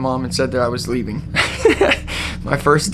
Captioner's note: laughs